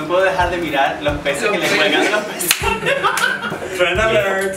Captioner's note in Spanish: risas